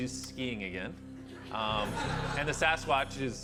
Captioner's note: laughter